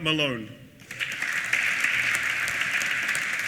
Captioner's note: applause